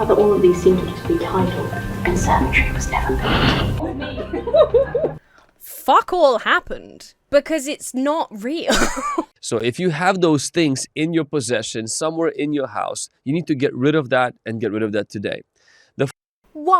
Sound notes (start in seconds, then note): 3.3 person behind camera laughs; 3.5 group laughs; 8.6 laughs